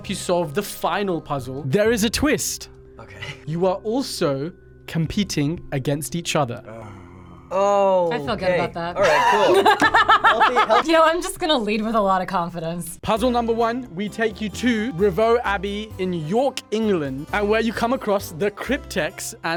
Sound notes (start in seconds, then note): 6.6 groans; 9.0 laughs